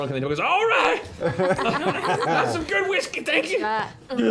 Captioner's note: laughter